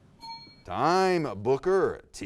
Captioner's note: bell dings